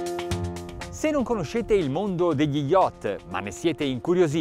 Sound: man speaks in foreign language

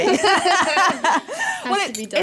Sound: laughter

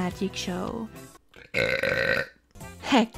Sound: burps

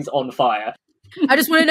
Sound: laughs

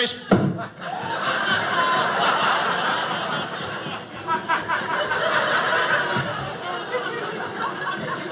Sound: audience laughing

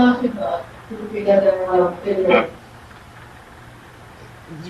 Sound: woman chattering

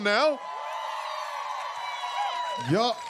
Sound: cheers and applause

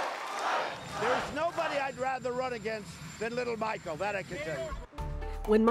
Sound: cheers and applause

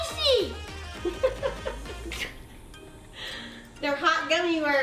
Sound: laughs

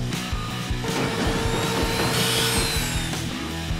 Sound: sawing

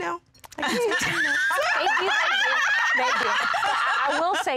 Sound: laughing

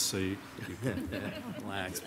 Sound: laughing

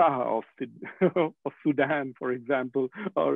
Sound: laughing

